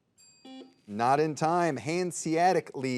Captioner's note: soft beeping